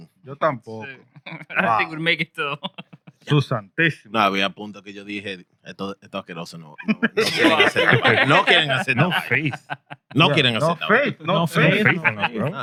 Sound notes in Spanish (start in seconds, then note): 4.1 Hablando en idioma extranjero; 4.1 Riendo